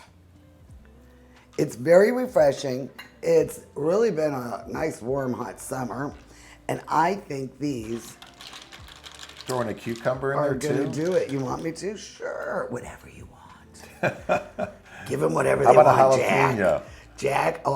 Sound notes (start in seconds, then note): 13.8 laughs